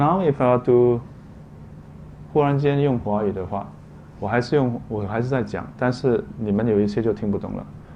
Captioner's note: non English speech